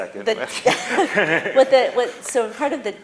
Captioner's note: laughter